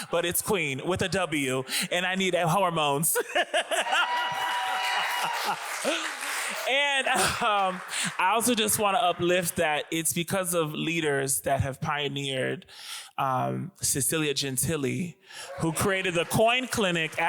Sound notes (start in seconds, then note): 3.1 laughs; 3.7 audience applauds